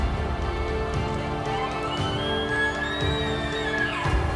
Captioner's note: caller bugling